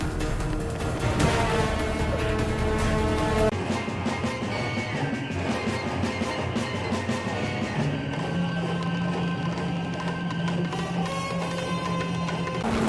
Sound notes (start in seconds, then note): 0.8 quick footsteps